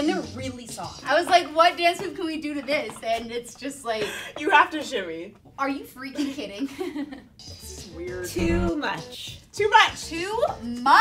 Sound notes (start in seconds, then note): 8.4 laughs